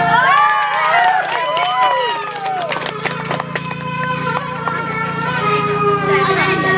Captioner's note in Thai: ปรบมือ